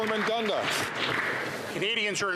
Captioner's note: some Applause